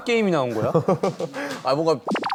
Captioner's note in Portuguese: Hehehehehe